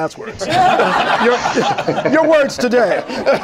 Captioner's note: laughter